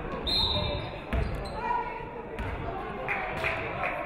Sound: referee whistles

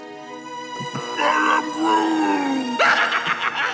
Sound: wailing; laughing maniacally

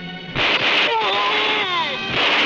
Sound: guns firing; groaning

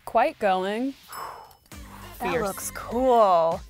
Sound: ding; shocked gasp

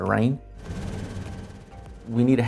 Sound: motor rumbling

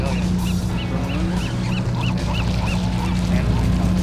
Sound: birds chirping

